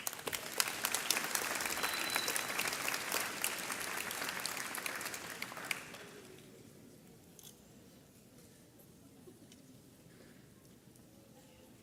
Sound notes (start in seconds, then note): 0.0 audience applauds; 7.6 camera clicks